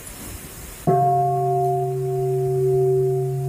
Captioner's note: bell